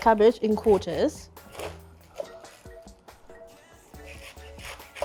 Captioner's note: cabbage crunching